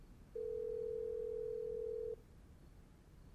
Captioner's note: phone ringing